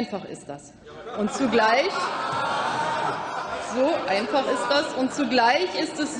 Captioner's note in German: Lachen bei Abgeordneten der SPD und der LINKEN